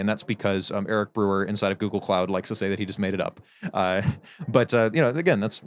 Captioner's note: chuckles